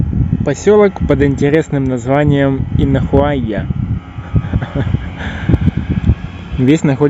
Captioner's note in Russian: смеётся